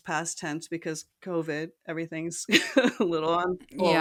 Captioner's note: laugh